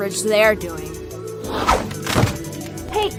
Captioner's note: slip, thud